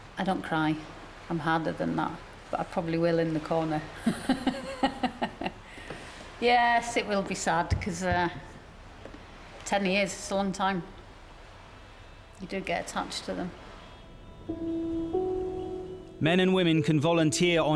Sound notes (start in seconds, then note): 4.0 laughing